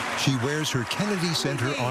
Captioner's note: cheering and applause